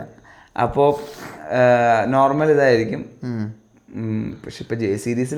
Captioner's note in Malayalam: ചീറ്റുന്നു